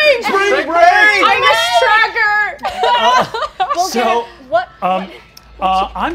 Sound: sobbing

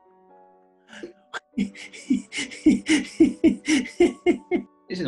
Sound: giggling

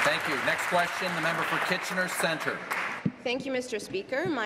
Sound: applause

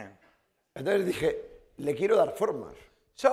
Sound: speaking spanish

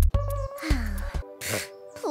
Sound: sigh

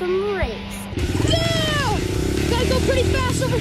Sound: engine roaring

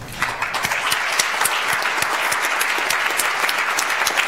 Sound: audience applauds

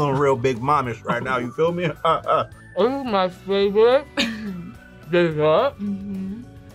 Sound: laughs

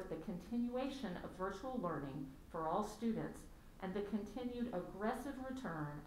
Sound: none

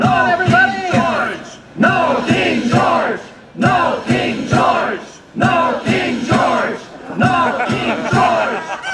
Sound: audience laughter

